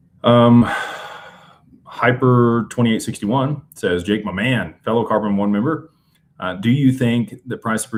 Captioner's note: sighs and gasps